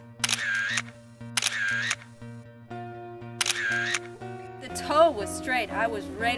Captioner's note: camera shutter clicks